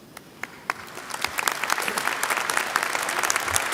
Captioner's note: applause